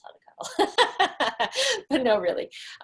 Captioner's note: laughing